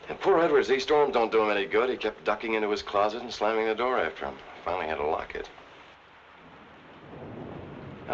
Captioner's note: none